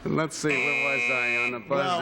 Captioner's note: buzz